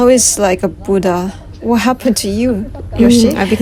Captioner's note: laugh